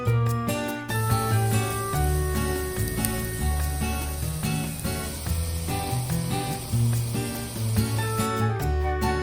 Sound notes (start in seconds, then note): 0.9 cooking/sizzling asmr